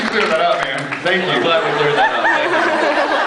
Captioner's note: laughs